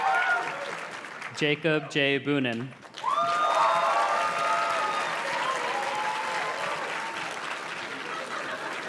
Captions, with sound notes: Jacob J. Bunin. (audience cheers and claps)